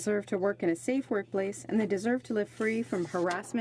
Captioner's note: speaking in french